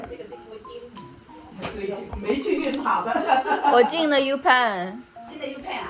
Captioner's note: laughing